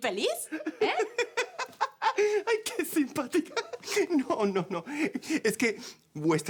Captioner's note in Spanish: Risas